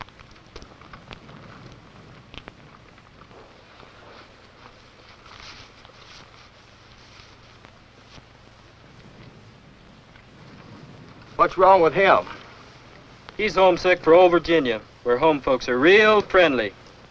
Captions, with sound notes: [footsteps] [rustles] [silence] - What's wrong with him? - He's homesick for old Virginia where home folks are real friendly.